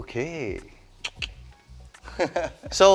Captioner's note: clicks tongue